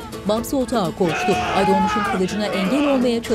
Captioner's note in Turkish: Bağırma sesi